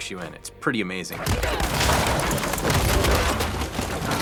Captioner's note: wood splintering